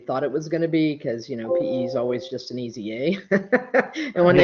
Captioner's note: laughs